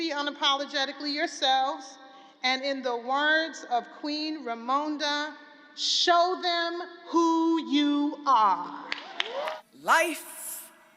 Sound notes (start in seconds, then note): 9.0 cheering and applause